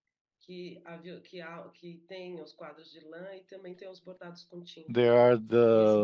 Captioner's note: speaking in Portuguese